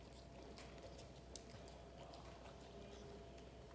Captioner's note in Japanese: 咀嚼音